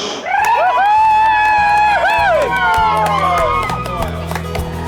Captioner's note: crowd cheering; cheerful instrumental music